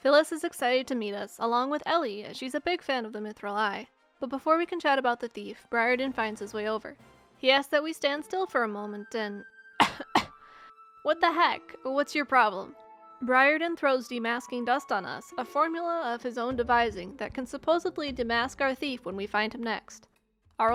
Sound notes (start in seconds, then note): 9.8 cough